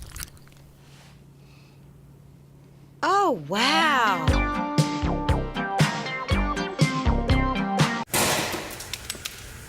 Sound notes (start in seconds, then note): 4.1 funky electronic music; 8.1 egg slams